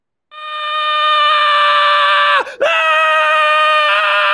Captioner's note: screaming